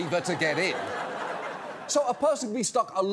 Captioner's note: laughter